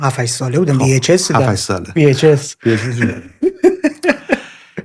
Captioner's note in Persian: خنده